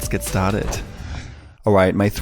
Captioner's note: whoosh